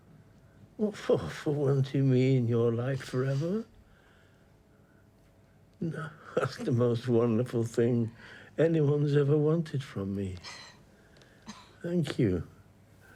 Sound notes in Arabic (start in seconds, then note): 10.0 روبين تضحك